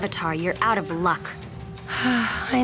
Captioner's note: sighing